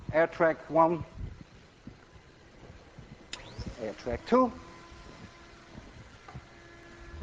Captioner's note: air track humming